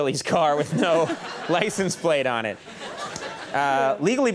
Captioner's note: audience laughing